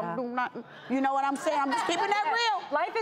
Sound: audience shouting

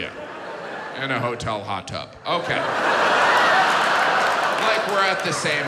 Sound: audience laughs

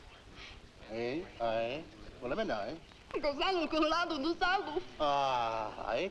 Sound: Rakos and Nona speaking in foreign language

